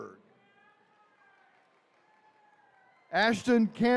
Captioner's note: attendees cheering